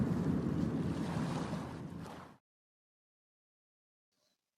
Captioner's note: sounds of waves